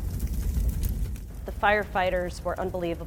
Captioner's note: fire crackling